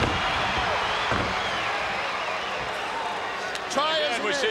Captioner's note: body thuds